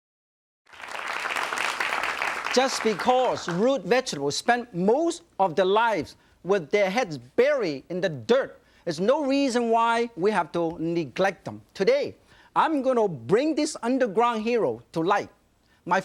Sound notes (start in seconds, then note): 0.6 audience clapping